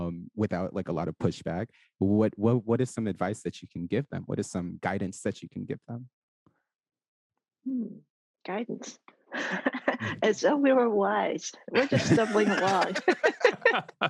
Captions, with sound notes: without, like, a lot of pushback. What, is some advice that you can give them? What is some guidance that you can give them? - Oh Guidance. (laughs) As though we were wise. (all laugh) We're just stumbling along.